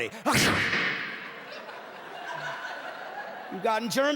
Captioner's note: sneezes